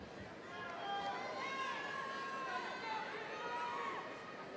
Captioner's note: overlapping chatter